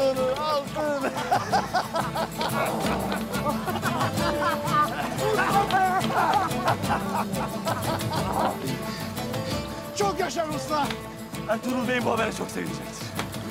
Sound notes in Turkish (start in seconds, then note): 0.8 Gülme sesleri